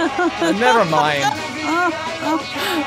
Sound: laughs

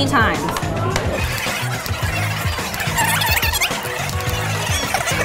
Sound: fast forward sound

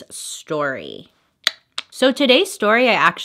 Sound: tongue clicks

